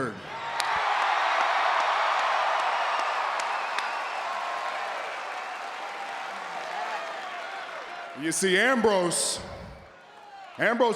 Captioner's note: applause